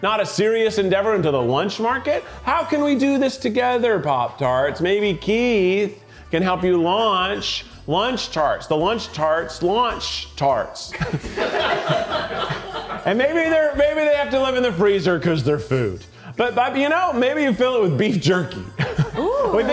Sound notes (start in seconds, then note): 11.1 crew laughing